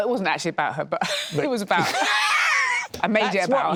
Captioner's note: laughter